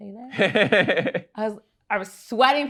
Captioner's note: laughs